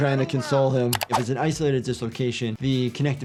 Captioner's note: keyboard clicking